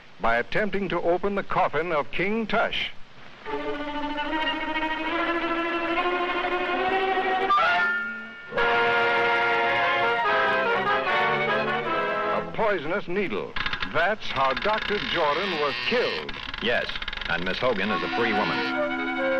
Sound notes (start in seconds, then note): 3.6 suspenseful music; 8.5 dramatic music; 13.5 lid creaking; 18.5 tense music